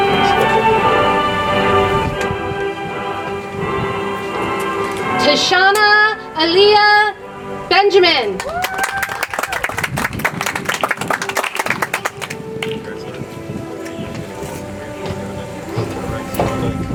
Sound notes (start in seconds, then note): 8.4 audience applauds; 14.3 soft music